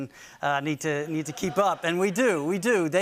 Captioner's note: laughter